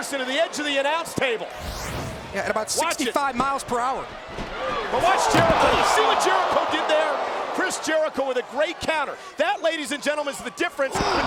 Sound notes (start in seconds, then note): 1.5 swooshing music; 5.8 audience cheering